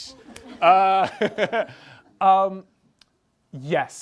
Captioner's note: laughs